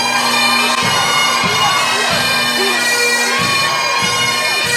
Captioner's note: crowd cheering